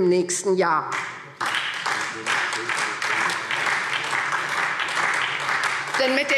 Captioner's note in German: Beifall SPD